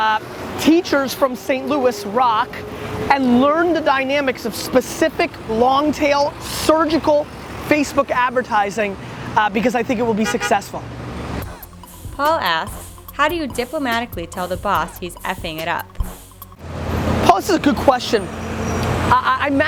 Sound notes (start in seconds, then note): 11.4 hip-hop music; 11.9 voiceover